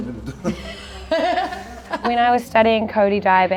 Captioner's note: woman laughs